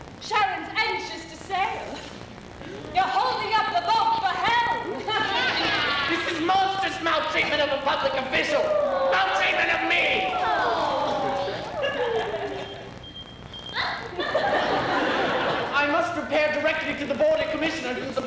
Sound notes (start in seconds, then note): 11.6 beeping; 14.1 laughter